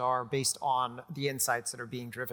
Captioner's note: none